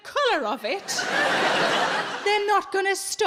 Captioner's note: audience laughs